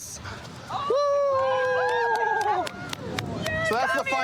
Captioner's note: cheering